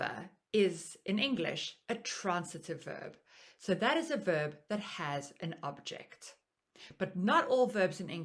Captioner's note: in English